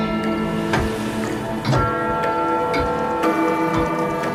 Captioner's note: bells tolling; clock ticking